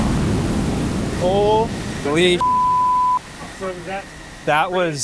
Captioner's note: engines whooshing; beep